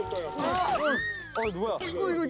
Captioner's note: crash